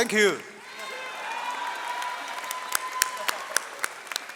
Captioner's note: audience cheers